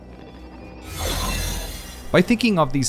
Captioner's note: woosh